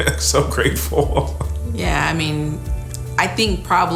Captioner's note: chuckling